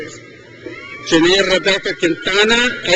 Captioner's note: crowd cheers